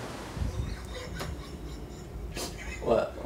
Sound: laughter

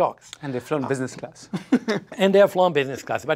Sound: laughs

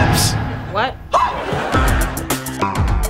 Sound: screaming

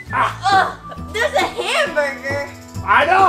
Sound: groans

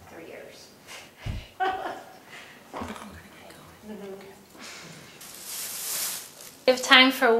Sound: laugh

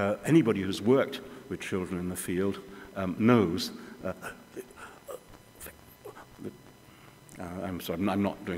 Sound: breathes irregularly

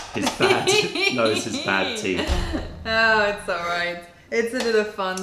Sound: laughter

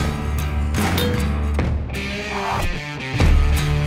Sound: bell dings

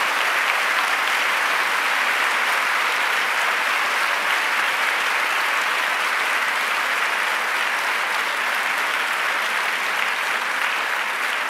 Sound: applause

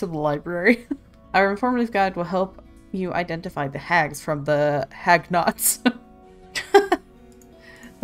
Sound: laughs

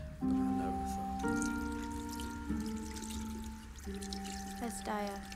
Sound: water trickling

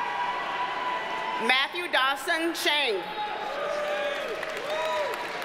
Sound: audience cheers and applauds

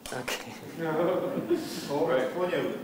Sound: laughter

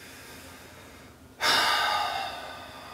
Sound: sighs

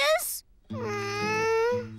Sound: whining

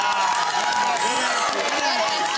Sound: cheering and applause

